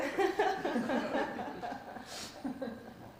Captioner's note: laughter